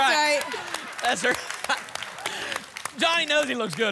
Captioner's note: applause